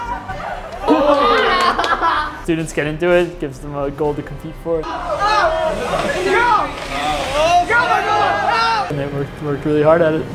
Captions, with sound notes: (laughing) “Students get into it, it gives them a goal to compete for” (cheering) “And they worked really hard at it”